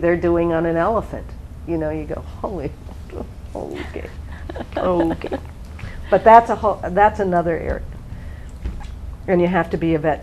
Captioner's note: small laugh